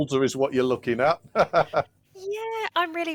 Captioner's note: laughs